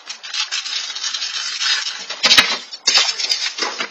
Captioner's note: wrappers crinkling